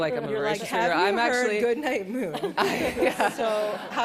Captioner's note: laughter